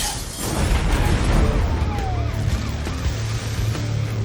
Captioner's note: sirens wailing